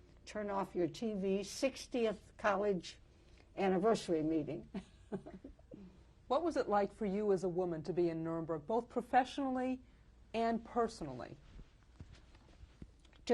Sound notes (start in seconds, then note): 5.1 laughs